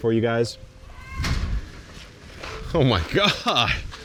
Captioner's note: door thuds